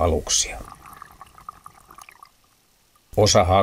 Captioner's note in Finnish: vedenalaisia ääniä